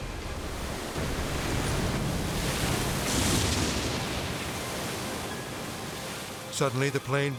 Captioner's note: water splashes; plane crashes